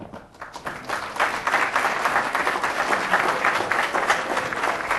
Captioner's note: applause